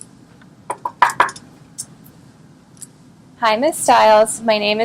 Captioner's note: knocking